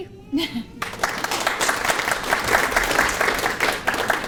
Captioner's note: applause